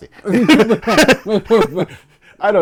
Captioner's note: laughter